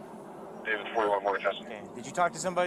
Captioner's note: radio chatter